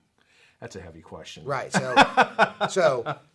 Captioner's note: laughs